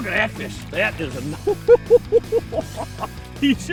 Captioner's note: laughter